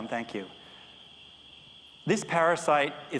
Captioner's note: background insect and nature sounds